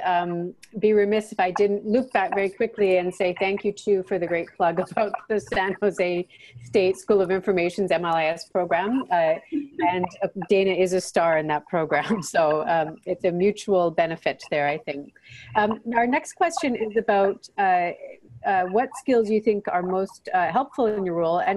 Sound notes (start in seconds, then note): 12.2 laughs